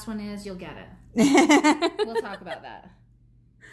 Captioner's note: laughs